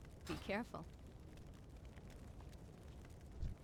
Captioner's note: none